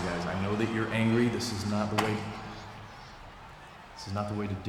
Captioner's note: phone thuds